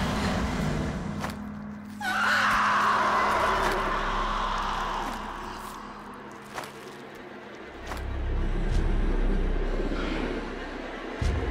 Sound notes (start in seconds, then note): 2.5 blood squelches; 5.7 tense violin music; 8.2 footsteps crunching